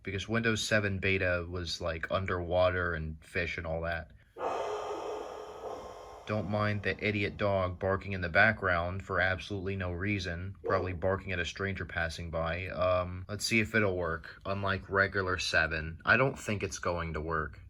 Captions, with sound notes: Because Windows 7 beta was was like, underwater, and fish and all that. *dog barking like the asshole she is* Don't mind the idiot dog barking in the background for absolutely no reason. *BARK*ably barking at a stranger passing by, um, let's see if it'll work. Unlike regular 7. I don't think it's going to work.